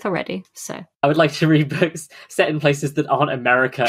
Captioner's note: laughing